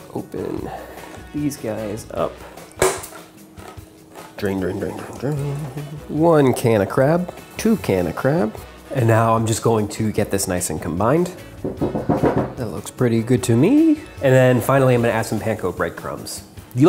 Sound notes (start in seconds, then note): 2.7 can pops; 11.7 taps on bowl